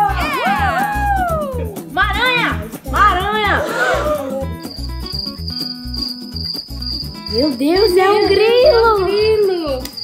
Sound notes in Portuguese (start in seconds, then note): 0.0 som de "uhul"; 3.6 suspiros surpresos; 4.0 som de grilos